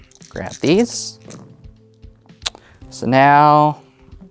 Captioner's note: dice rattling; dice rolling